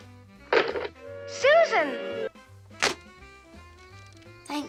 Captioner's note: hang up sound